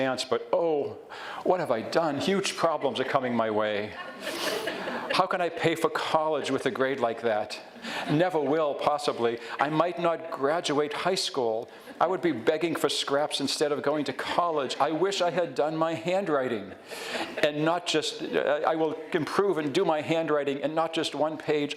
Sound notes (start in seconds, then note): 4.0 audience laughs